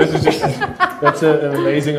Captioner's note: laughs